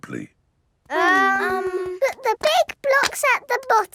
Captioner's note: children hesitating